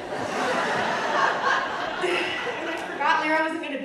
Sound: audience laughing

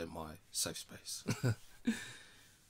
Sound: laughter

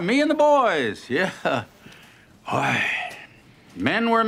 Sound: chuckles

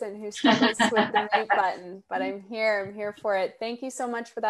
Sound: chuckles

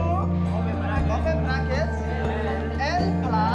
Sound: class speaking Somali

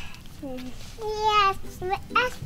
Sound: she mutters something

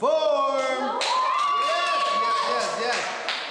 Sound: dancers cheering

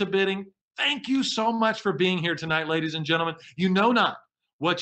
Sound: none

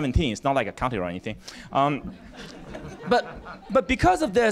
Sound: laughter

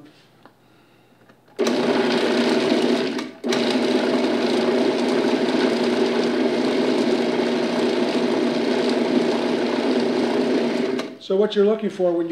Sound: robot coupe whirring

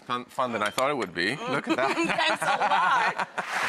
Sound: laughs

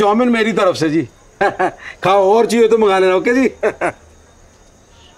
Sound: laughs

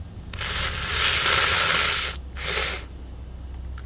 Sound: blows nose

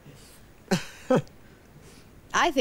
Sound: laughs

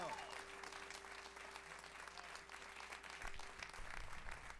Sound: crowd applauding

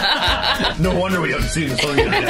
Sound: laughing

